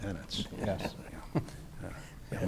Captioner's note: chuckling